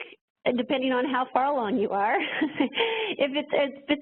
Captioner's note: laughs